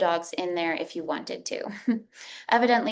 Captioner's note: chuckles